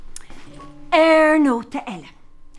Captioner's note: in irish